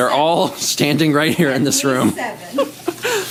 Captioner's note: laughs